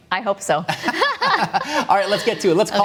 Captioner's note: laughter